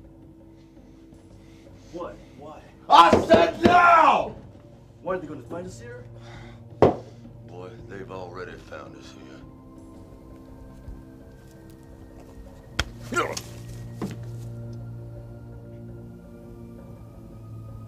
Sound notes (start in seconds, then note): 13.3 man groans; 15.1 tense music